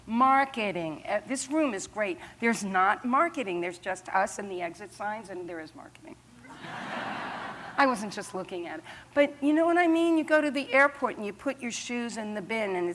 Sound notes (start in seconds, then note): 6.5 laughter